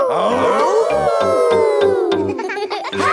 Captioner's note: all howling; howling